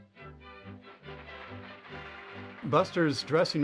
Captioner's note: applause